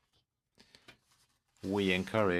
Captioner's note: speaking in french